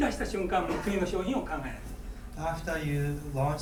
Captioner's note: speaking in foreign language; coughing